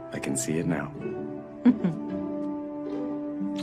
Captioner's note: chuckles